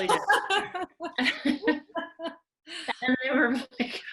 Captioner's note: laughing